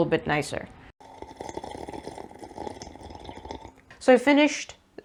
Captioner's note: long noisy sip